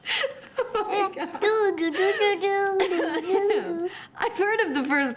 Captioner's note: laughing